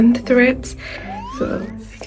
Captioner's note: zooming sounds